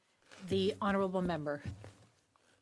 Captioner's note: speaking French